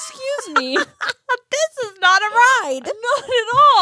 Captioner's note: laughs